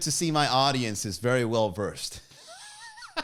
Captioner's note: laughs